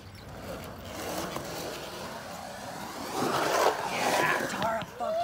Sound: skateboard rattles

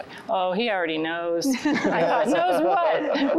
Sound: laughter

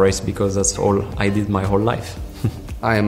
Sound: laughs

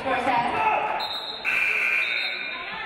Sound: referee blows whistle; game buzzer buzzes

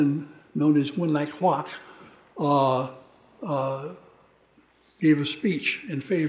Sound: speaking foreign language

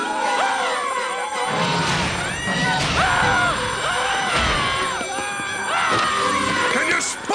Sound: screaming; screaming, alarm ringing

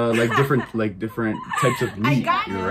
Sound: laughs

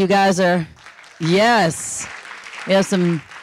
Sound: audience applauding

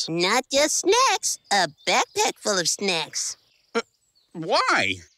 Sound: none

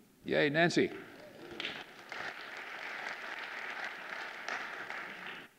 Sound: audience applauding

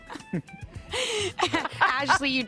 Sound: laughter

